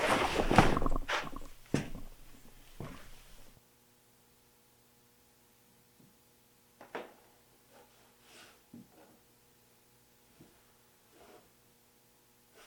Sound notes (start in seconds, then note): 0.0 cloth rustling; 4.1 electricity humming